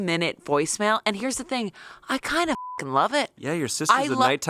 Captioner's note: beep